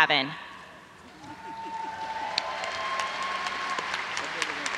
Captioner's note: audience applauds